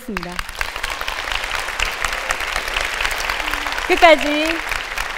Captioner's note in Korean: 박수